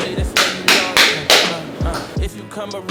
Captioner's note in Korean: 짝짝짝짝